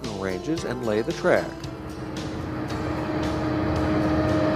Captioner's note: train hums